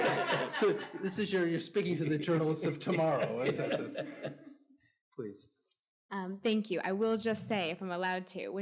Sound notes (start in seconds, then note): 0.0 audience laughing; 3.8 Anthony laughs